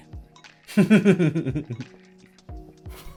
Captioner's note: laughing